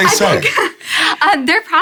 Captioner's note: laughing